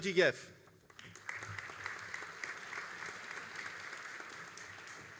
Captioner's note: all applauding